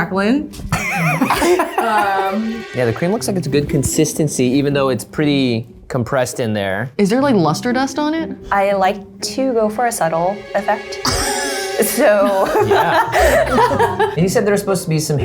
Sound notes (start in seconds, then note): 0.7 laughter; 12.2 laughs; 12.3 laughter